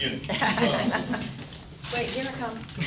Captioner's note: audience laughing